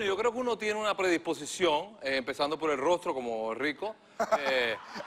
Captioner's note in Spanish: risas